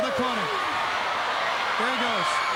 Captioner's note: crowd cheering